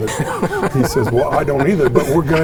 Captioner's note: participants laughing